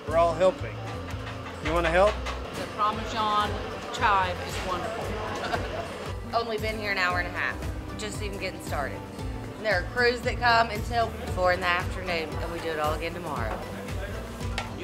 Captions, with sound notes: We're all helping. You wanna help? - The Parmesan chive is wonderful. (laughs) - Only been here an hour and a half, just even gettin' started, and there are crews that come until four in the afternoon and we do it all again tomorrow.